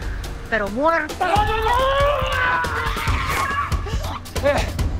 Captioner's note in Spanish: Gritos